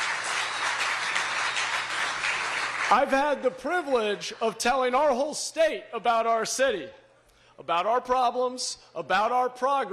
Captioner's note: applause